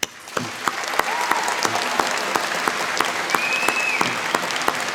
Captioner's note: applause